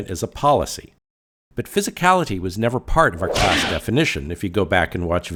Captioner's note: sound effect